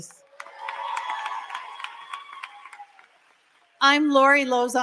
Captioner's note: applause